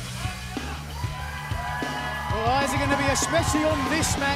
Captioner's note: crowd cheering